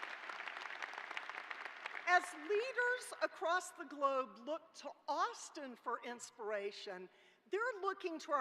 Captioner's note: applause